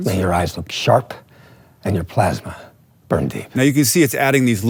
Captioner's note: movie dialogue plays